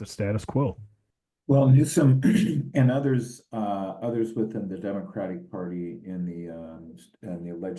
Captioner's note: cough